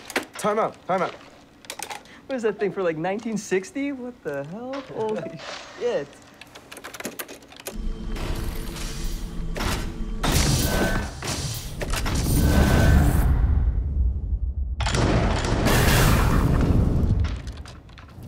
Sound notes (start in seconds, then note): 12.0 thudding; 14.8 guns firing